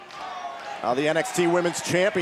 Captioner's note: fans chanting